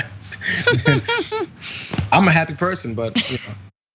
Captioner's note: laugh